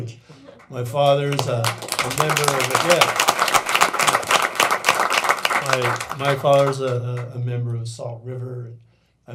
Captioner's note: applause